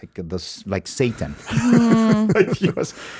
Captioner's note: Jaime laughs